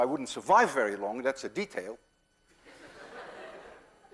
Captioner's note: class laughs